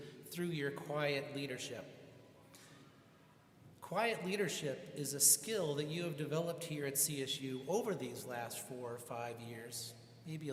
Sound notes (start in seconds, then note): none